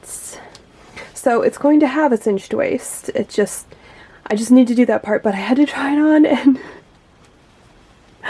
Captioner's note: giggles